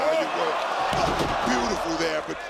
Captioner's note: audience cheering